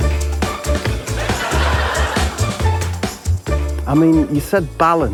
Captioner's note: makes eating noise